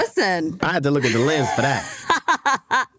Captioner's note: chuckling